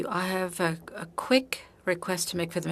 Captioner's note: speaking French